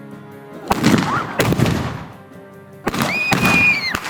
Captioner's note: gun banging